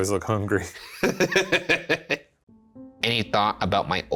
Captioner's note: laughs